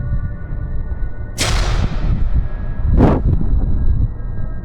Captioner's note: banging